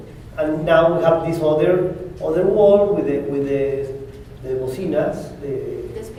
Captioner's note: spanish